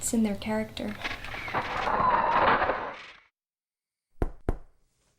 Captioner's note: camera flash whooshing